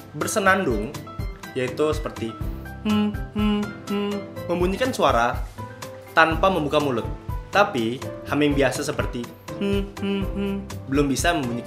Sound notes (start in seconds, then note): 3.0 humming; 9.5 hum